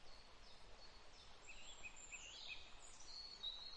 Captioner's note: birdsong in the forest